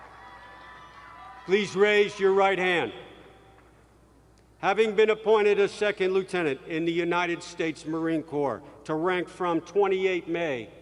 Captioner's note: cheering